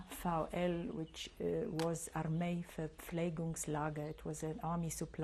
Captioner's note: non-english; non-english